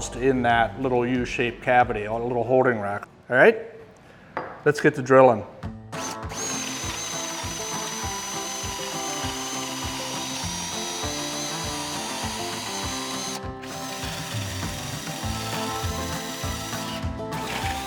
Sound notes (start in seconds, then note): 6.3 drill whirring; 6.3 upbeat music